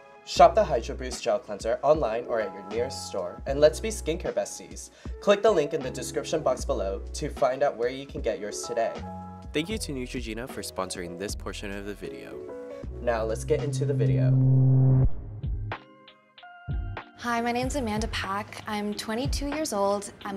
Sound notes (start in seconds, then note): 13.5 transition humming; 16.8 upbeat music playing